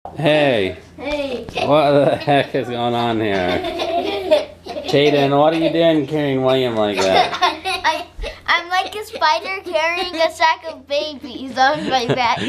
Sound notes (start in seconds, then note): 3.5 children laugh; 11.6 laughs